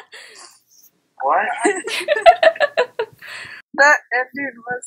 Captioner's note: laughing